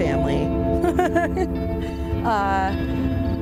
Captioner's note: laughs